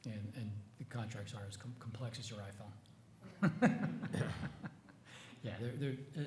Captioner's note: chuckles